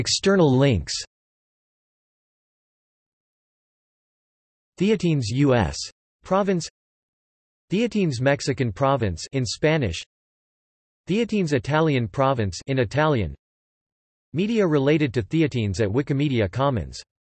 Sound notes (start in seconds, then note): 8.9 in Spanish; 12.7 in Italian